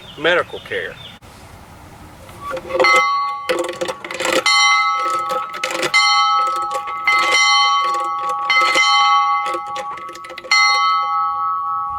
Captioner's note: bell Ringing